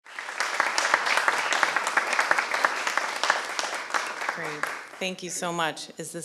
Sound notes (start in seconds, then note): 0.0 applause